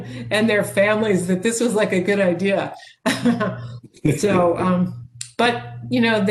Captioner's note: chuckles